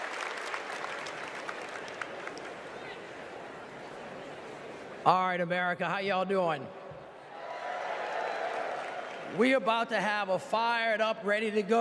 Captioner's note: applause